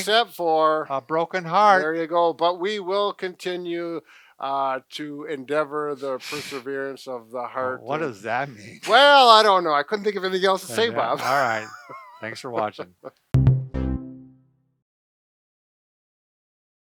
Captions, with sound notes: - Except for... - A broken heart. - There you go. But we will continue to endeavor the perseverance of the heart. - What does that mean? - Well, I don't know. I couldn't think of anything else to say, Bob. (laughs) - Thanks for watching. (music fades)